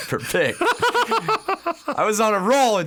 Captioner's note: laugh